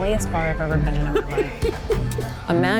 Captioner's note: laughs